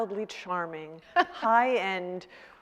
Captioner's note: laughing